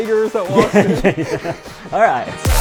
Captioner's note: laughing; laughs